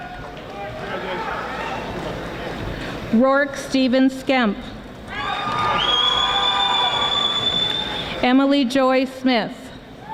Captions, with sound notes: Roark Stephen Skemp (audience applauding) Emily Joy Smith